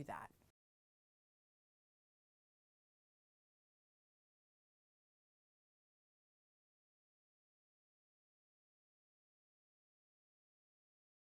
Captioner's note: no Sound Present